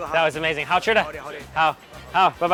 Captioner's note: speak in a foreign language; speaks in a foreign language